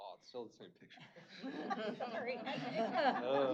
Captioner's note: laughter